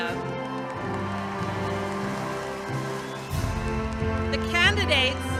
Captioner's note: attendees cheering